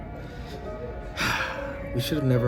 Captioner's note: sighing